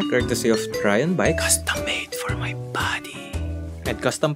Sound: whispers

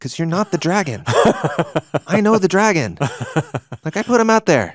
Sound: laughing

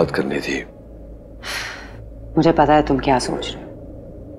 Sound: Ananya gasps

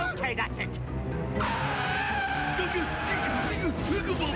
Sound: trumpeting

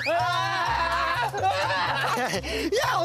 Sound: wahhh

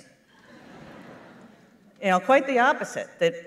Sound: laughter

